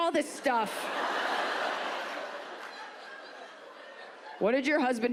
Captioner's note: audience laughs